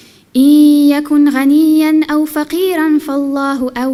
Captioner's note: none